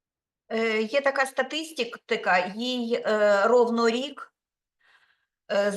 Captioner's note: speaking Ukrainian